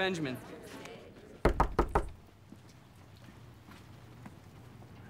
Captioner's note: knocking on door